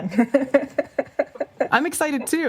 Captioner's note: laughs